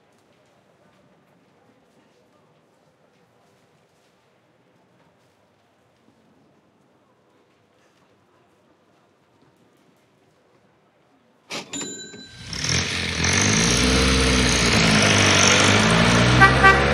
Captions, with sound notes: STarshine my fav place EVER Man I need shillings.. *VROOM* IM IN MY MUMS CAR